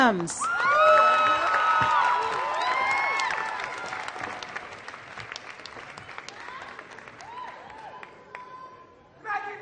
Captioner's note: applause